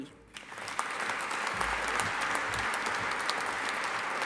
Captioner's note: audience applauding